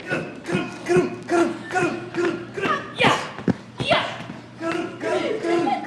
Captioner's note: Ethan imitates galloping horse